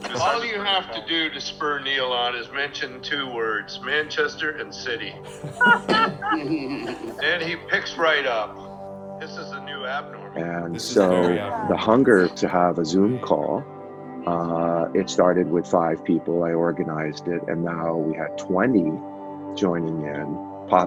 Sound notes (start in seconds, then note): 3.8 laughter